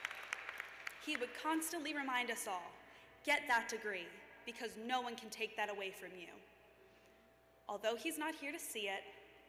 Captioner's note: cheers and applause